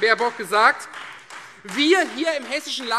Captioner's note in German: Beifall Freie Demokraten